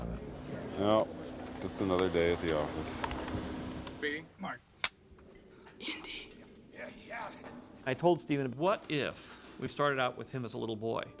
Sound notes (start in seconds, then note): 5.5 whispering